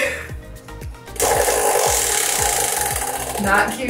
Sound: spinner rattling

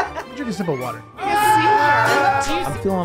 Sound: laughter; cheering

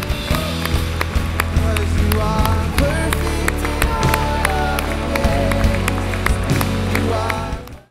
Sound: applause

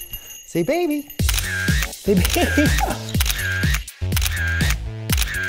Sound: camera shutter clicks

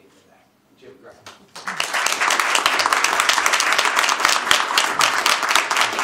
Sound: applause

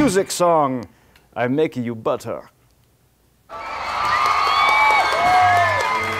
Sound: crowd cheering

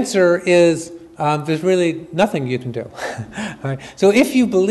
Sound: chuckles

